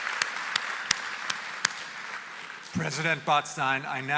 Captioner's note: applause